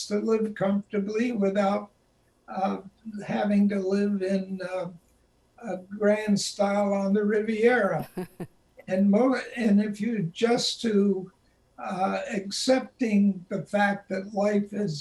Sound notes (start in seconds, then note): 8.9 chuckles